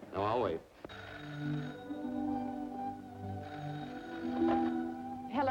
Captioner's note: telephone ringing